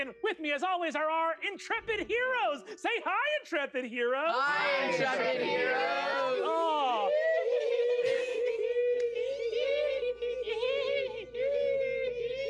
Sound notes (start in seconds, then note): 7.0 players giggling mischievously